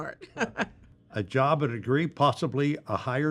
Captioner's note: chuckles